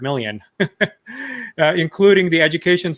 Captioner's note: chuckles